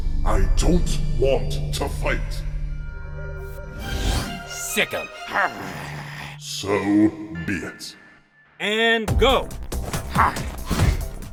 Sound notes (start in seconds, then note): 5.4 growls; 10.0 grunts